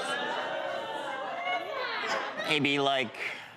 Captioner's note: crowd booing